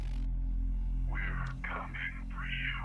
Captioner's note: static interference